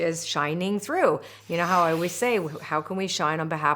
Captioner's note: loud whooshing